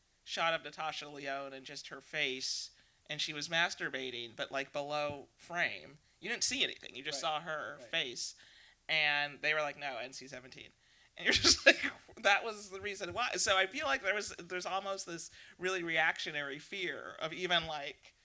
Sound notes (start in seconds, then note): 11.3 laughs